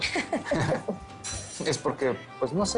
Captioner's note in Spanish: Risas